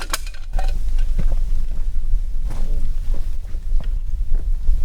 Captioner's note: can clinking